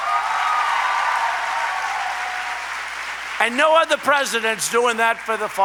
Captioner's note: applause